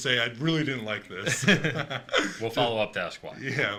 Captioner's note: laughter